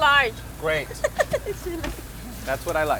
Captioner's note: laughs